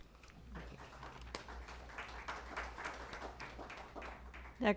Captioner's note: applause